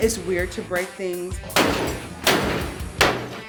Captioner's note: smashing